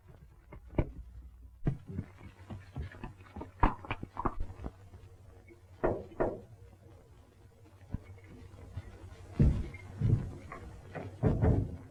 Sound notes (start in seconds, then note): 5.8 knocking at door